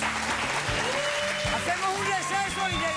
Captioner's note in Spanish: aplausos